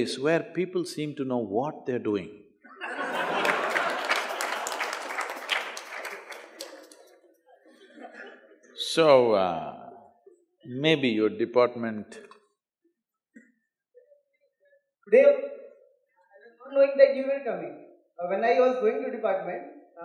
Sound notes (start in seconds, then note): 2.7 laughter/Applause